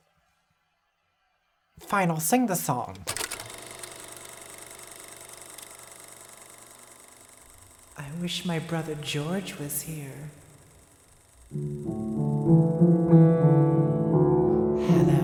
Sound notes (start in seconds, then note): 3.0 film reel whirring; 11.5 solemn piano music